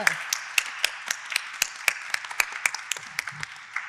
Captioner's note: audience applauding